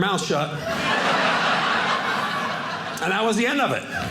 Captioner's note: audience laughing